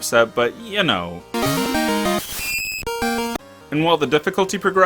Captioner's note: obnoxious screech